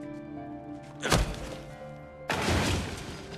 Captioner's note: punching